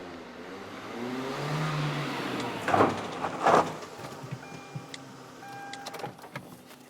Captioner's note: engine sound and car sound